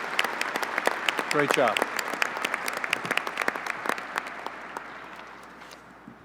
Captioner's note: applause